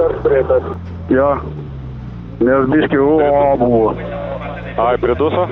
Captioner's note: stalling engine sounds